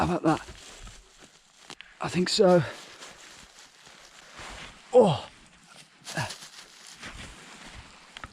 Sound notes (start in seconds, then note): 4.9 groans